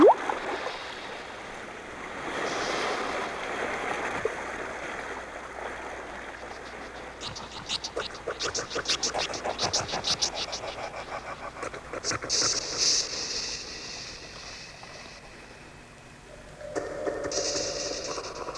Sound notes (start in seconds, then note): 2.4 water Rushing; 8.2 snake Hiss